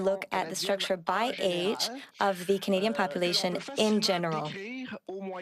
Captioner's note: speaking French